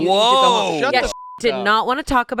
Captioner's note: beep